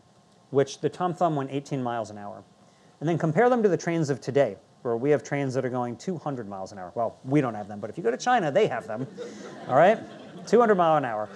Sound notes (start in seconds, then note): 8.5 audience laughing